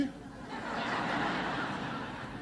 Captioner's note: laughter